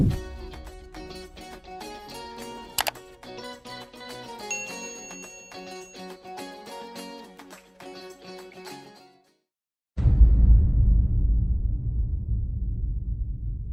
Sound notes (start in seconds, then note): 0.2 upbeat instrumental music; 2.3 bell dings; 2.7 keyboard click; 10.0 rumbling bang